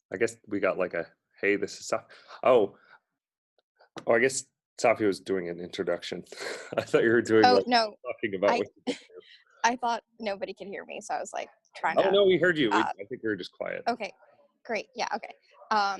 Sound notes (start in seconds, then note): 6.4 laughs